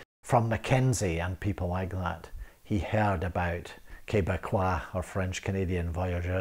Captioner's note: speaks French